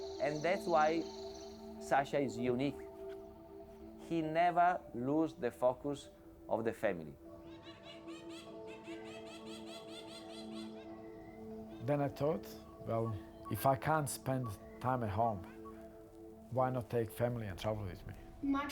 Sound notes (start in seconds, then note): 8.8 birds vocalizing; 8.8 soft music